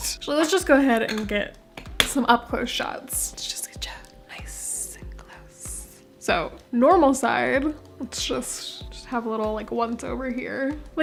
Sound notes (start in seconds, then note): 3.1 whispered